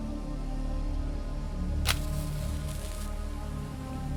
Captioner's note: eerie music; match scratches